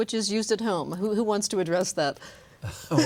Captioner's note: laughter